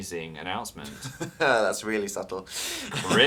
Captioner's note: laughs